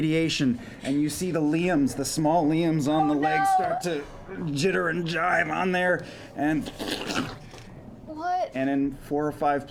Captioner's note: squelching